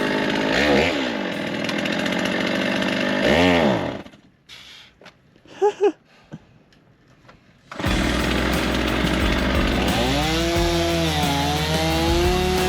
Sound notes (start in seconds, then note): 0.0 saw whirring; 5.4 chuckling; 7.7 saw whirring